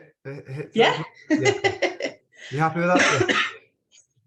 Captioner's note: laughs